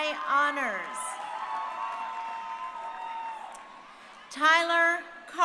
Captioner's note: crowd cheering